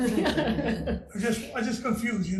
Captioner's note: committee laughs